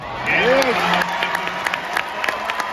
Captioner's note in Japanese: 拍手